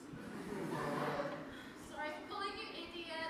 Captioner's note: audience laughs